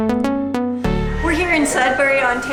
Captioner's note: vibrant background room activity